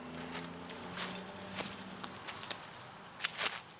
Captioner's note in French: bruits de pas